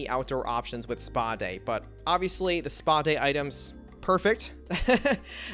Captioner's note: laughs